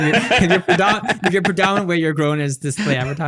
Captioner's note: laughing